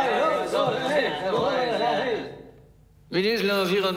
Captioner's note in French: protestations, brouhaha